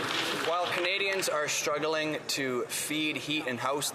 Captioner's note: some Applause